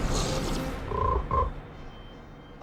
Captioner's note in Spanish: Croa